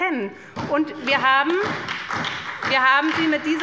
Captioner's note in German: Beifall bei der SPD